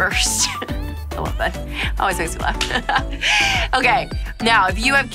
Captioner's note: laughs